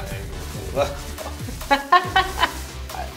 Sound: laughter

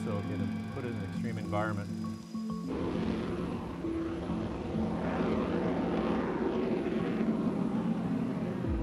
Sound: Music/ER-2 taking off

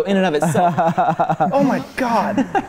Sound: laughing

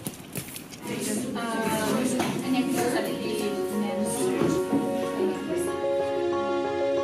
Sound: speaking foreign language

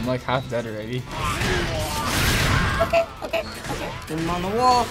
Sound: Blaziken groans

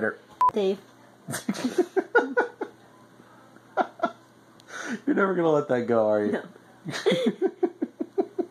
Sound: laughs; both laugh

